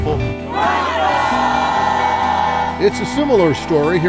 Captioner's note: students cheering